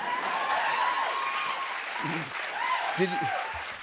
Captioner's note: cheers and applause